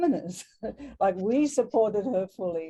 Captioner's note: laughs